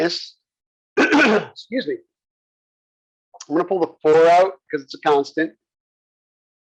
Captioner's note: cough